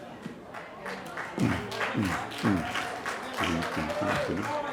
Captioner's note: applause